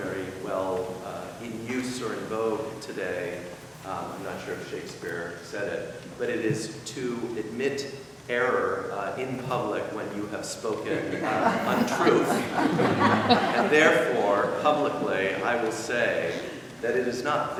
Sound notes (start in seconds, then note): 10.8 laughing